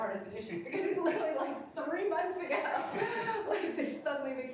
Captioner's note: laughs